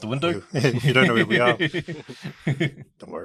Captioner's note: laughs